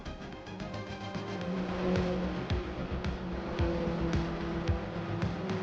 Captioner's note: car engine roaring; upbeat music